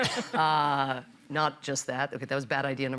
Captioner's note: laughter